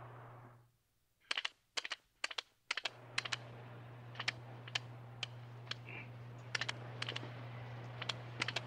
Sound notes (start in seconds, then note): 1.9 surf crashes; 1.9 tape recorder clicks